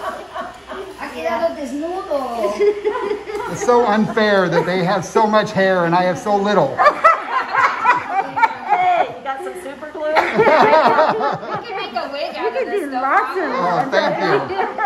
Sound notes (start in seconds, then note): 1.5 speaks foreign language; 6.6 all laughing; 13.3 all laughing